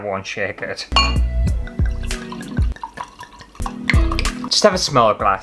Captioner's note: wine Pouring